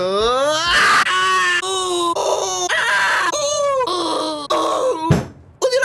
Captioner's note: screams of pain